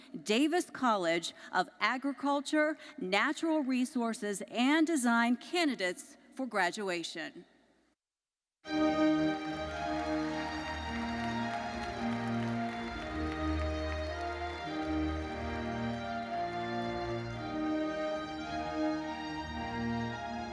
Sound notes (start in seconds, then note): 8.8 audience applauding; 8.9 majestic solemn music